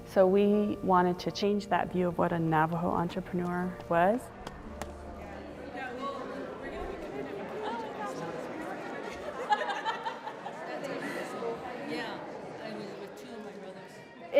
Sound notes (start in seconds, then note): 5.8 crowd murmuring; 9.4 laughing